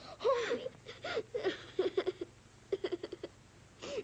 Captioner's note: sobbing